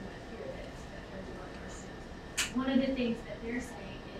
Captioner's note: speaking away from mic